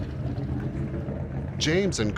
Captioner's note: engine running